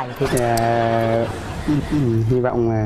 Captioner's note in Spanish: risas